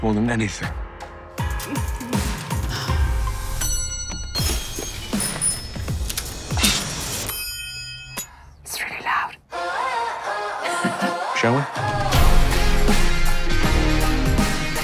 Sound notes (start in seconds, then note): 2.8 upbeat music; 3.5 bell dings; 7.0 bell rings; 7.2 bell dings; 14.6 upbeat music continues